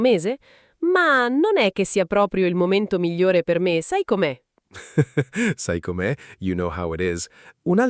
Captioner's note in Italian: risate